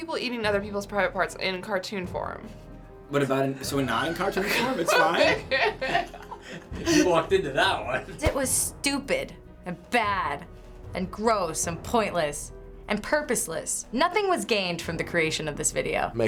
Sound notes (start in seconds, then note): 4.1 laughing